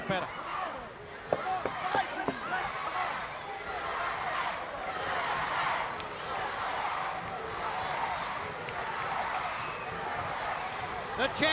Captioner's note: crowd cheering